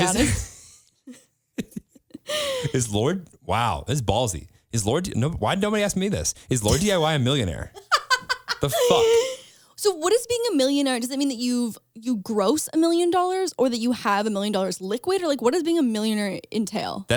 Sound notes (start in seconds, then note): 1.6 laughing; 7.7 laughs